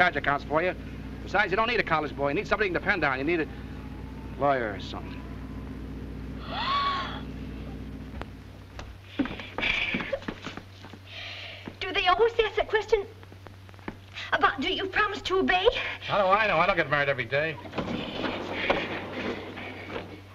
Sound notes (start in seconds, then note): 6.4 gasping